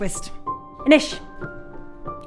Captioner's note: in irish